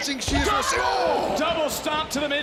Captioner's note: commentators exclaim